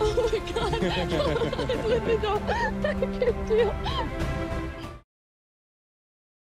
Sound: laughter

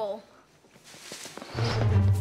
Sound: rustling

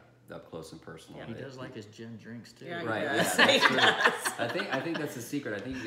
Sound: laughing

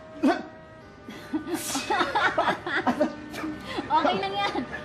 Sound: laughter

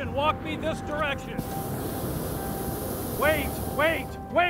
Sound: burner blasting

